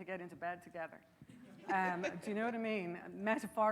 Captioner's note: laughing